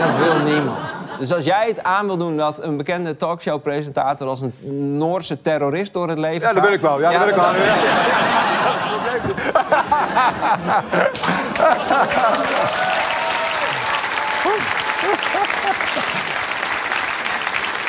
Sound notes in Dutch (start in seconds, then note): 0.0 gelach; 7.2 gelach; 12.8 applaus